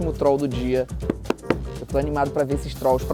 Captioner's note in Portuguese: som abafado de palmas